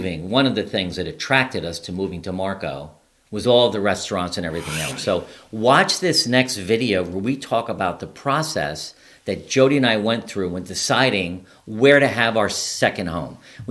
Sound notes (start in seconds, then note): 4.5 air whooshes